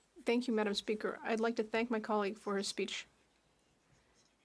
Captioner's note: speaking French